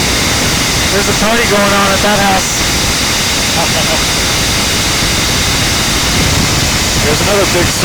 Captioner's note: laugh